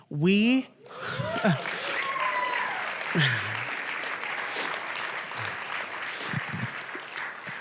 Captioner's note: applause